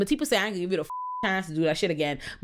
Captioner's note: beep